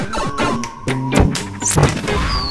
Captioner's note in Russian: звук портала